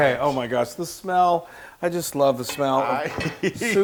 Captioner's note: laugh